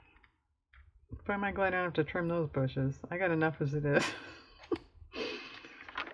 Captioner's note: laughs